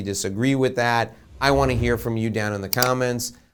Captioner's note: logo whooshing; mouse clicking